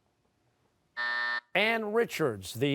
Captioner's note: buzzer